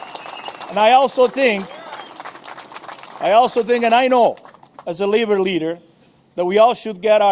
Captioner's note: applause